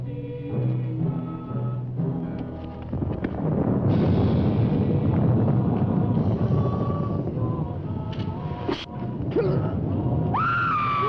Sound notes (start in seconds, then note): 2.6 thunder rumbling; 9.5 Bill grunting